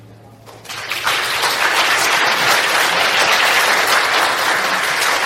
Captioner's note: applause